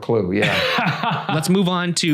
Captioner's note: laughing